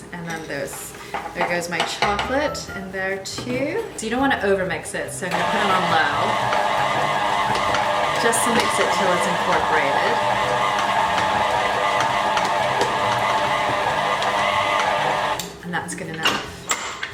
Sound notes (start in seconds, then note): 6.3 mixer whirring; 11.0 mixer whirring continues